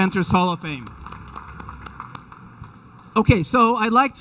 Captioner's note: audience applauding